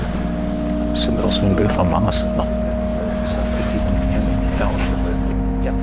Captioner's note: speaks German